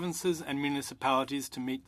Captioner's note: speaking French